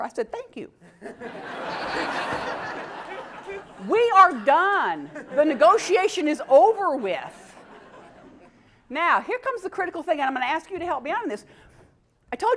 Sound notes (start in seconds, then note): 3.9 laugh